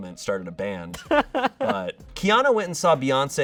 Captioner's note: laughs